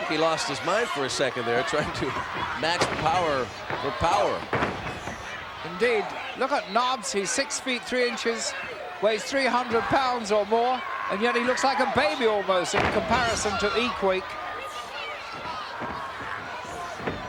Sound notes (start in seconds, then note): none